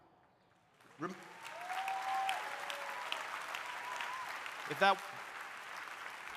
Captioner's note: audience applauding; audience cheering